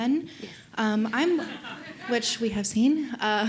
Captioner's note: laughter